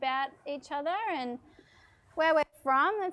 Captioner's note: none